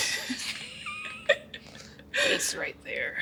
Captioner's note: laughs